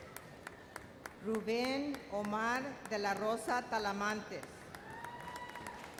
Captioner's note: audience applauds